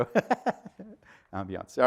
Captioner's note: laughter